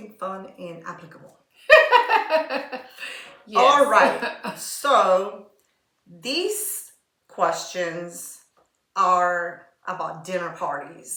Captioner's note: laughter